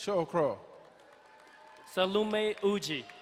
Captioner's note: crowd cheering and applauding